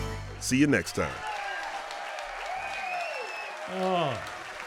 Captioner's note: applause